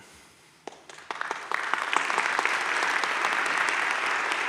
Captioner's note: audience claps